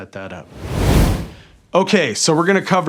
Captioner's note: air whooshing